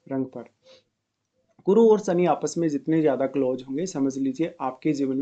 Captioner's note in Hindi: नाक से की जाने वाली आवाज़